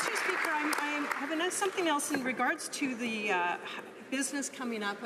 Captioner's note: applause